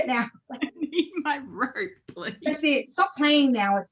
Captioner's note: laughs